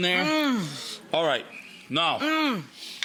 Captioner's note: Rachel moans; audience moans